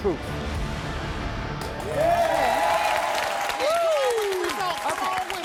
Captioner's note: audience applauding and cheering